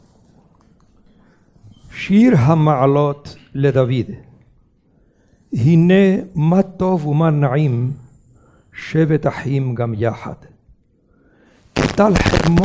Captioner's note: reads a prayer in Hebrew